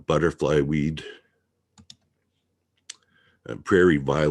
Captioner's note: mouse clicking